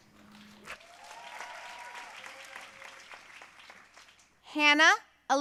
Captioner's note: audience cheering and applauding